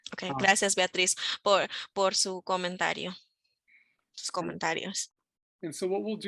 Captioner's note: speaking in foreign language